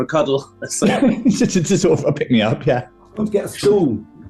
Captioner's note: laughing